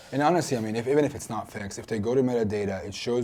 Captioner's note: none